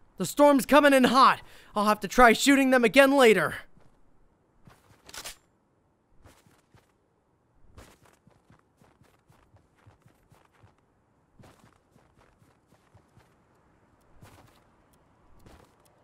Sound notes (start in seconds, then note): none